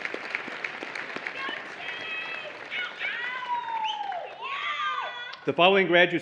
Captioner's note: applause and Cheering